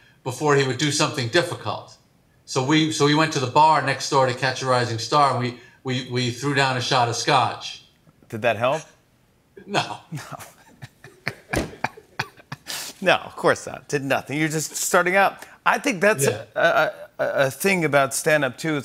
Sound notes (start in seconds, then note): 10.1 both laugh